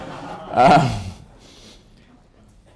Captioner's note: laughter